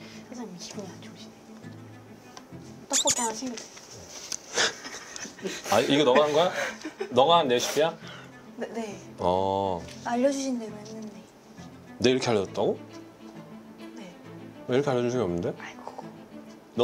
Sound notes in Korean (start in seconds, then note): 4.1 갑작스러운 웃음 공격